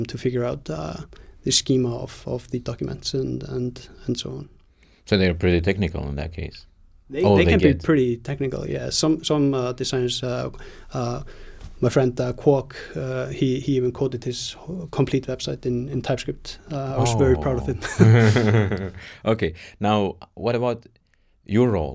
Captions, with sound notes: to figure out the schema of the documents and so on. - So they are pretty technical in that case? - They can be-- - Or they get-- - -- pretty technical, yeah. Some designers-- - - my friend Kwok, he even coded his complete website in TypeScript. - Oh. - I was very proud of him. (laughs) - (laughs) Okay, now what about your role?